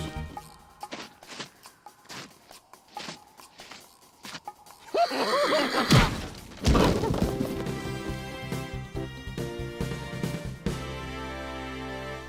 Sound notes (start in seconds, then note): 4.8 laughs